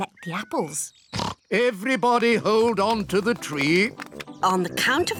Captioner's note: oinks